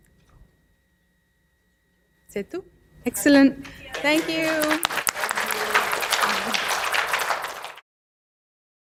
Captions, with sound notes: Excellent. Thank you. (clapping)